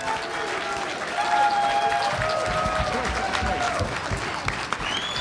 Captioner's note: applause and cheering